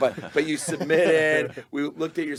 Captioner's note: group laughing